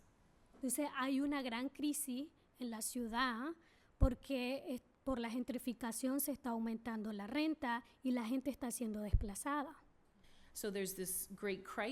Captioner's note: speaking spanish